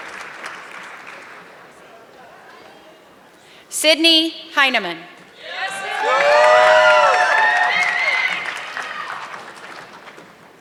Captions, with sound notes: Sydney Heneman. (audience clapping)